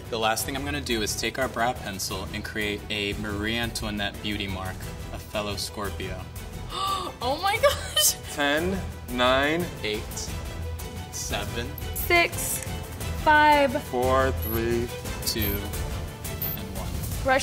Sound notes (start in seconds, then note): 6.8 gasps